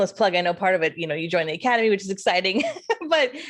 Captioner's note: laughs